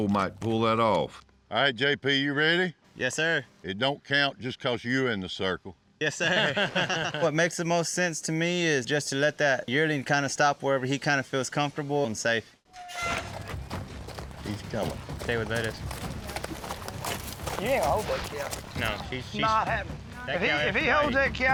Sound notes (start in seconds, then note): 6.1 laughs; 14.5 hoofbeats